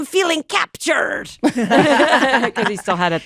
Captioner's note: laughter